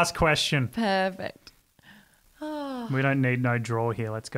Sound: sighs

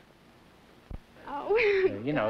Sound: nervous laugh

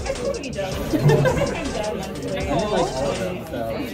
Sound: laughter

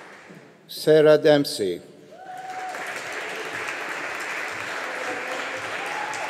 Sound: audience applauding

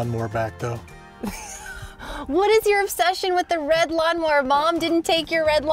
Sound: laughs

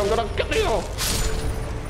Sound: crunch

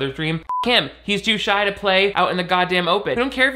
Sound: beeping

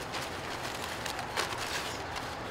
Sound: bags rustling

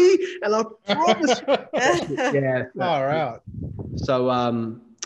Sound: all laughing

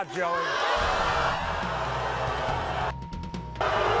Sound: audience boos

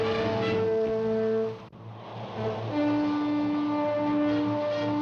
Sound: horn blowing

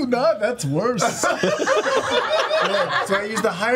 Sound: all laugh

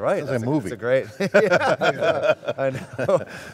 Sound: all laugh

